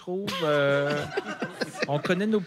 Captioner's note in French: rires